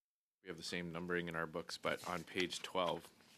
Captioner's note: speaking French